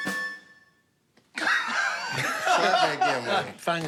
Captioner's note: laughter